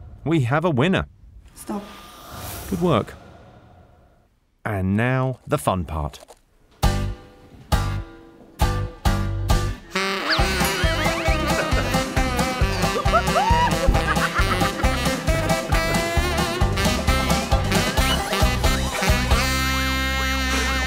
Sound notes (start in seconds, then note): 10.0 jaunty music; 14.2 they all laugh